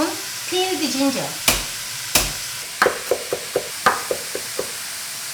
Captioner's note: knife chopping